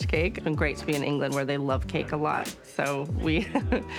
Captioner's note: chuckles